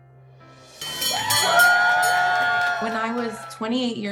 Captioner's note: people cheering